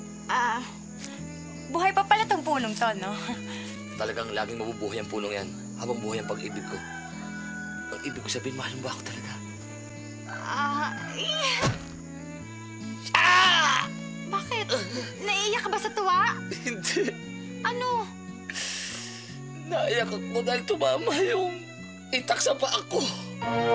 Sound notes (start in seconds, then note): 13.1 screams